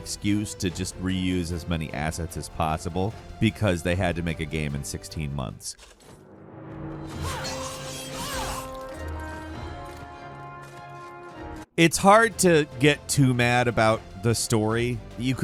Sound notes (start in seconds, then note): 7.2 knight grunts